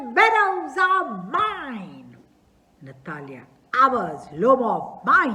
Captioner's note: yells